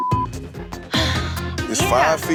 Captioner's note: deep sighs